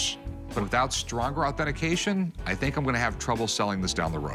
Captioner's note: none